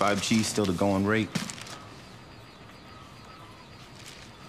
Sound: equipment beeping

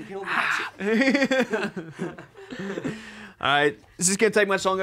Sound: men laughing

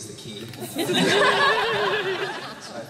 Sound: laughter

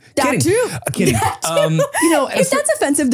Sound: laughs

